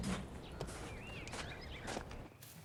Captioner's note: none